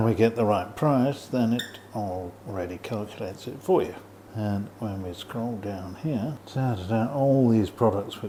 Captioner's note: squeek